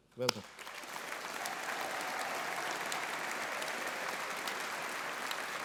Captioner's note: all applauding and cheering